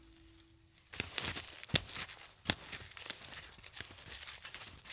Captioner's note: muffled footsteps